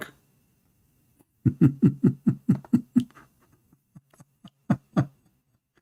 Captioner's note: Ketawa